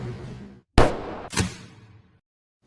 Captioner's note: gunshot